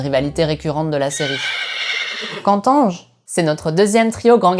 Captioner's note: neighing